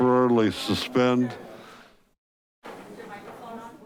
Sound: crowd murmuring

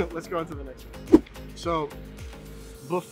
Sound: air whooshing

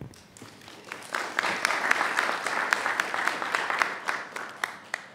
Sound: audience applauds

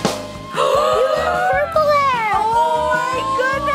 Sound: drum roll; all gasp

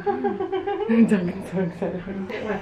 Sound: laughing

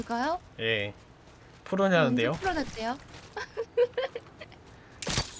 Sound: laughs

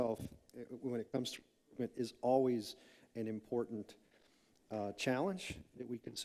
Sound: microphone cutting out

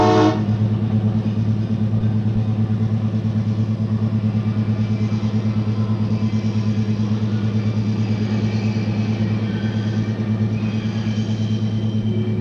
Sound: sound of the train moving

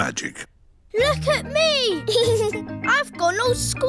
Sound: giggles

